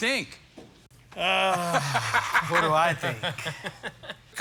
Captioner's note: laughs